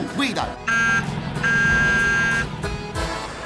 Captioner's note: car horn honks